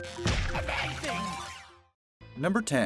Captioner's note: light upbeat music; digital chiming